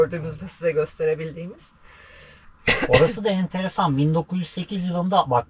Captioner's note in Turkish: boğazını temizler